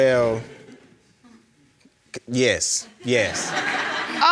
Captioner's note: audience chuckling; audience laughs